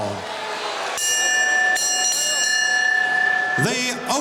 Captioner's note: bell rings